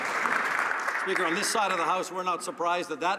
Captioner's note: some Applause